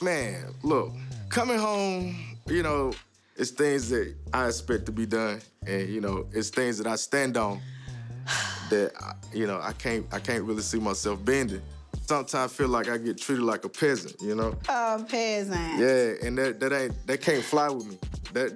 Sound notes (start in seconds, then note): 8.2 sigh